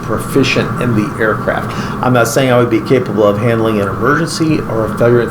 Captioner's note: laughing